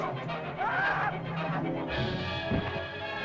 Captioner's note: suspenseful music; caveman screams; suspenseful music; body thumps